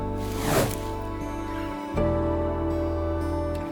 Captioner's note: image swooshes